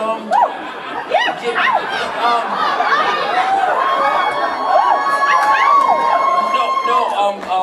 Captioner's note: audience cheers